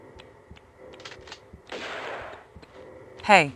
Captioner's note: noise of someone shooting at Lara with a gun